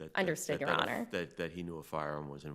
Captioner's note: chuckles